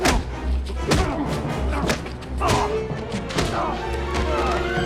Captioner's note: grunting; tense music plays; groaning